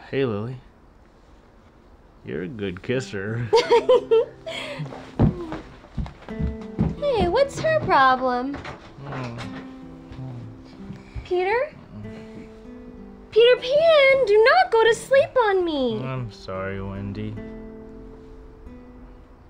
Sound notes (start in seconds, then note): 3.4 both laugh; 9.0 Peter grunts